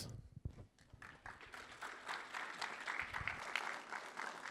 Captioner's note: applause